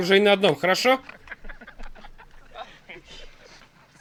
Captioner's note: laughter